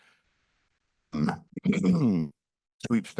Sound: clears throat

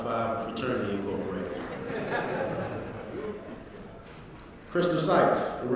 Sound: laugh

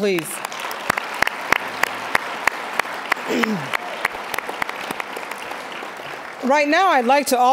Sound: applause

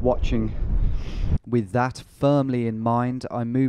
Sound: voiceover

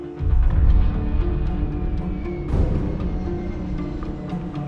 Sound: intense music; airplane

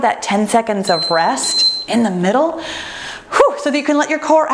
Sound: timer beeps

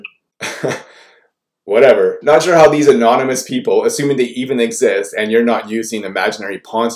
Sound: chuckle

